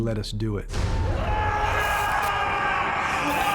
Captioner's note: screaming